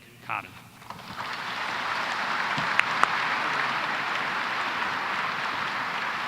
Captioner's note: applause